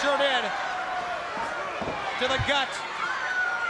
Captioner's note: crowd chatter